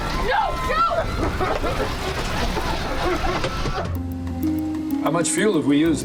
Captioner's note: passengers coughing